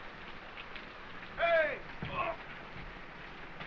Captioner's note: grunts